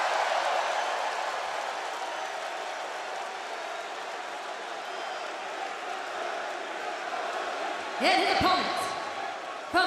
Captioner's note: crowd cheering